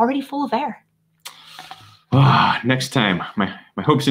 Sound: exhales

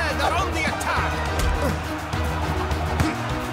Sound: grunting

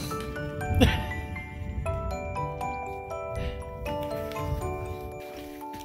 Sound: dad laughs

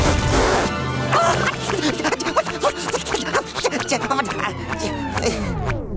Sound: panting

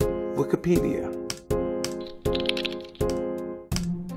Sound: typing

